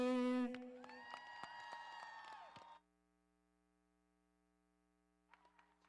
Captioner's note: audience applauding